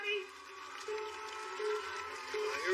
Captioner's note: countdown clock beeping